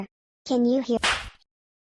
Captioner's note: smack!